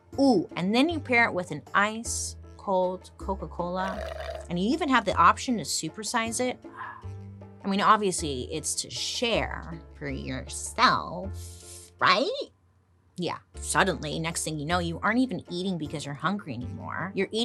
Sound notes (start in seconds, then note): 3.8 straw gurgling; 6.8 swoons